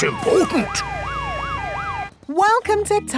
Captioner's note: sirens wailing